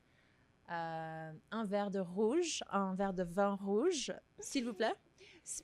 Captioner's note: speaks in French